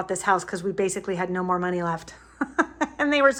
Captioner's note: laughs